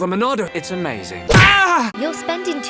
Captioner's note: smack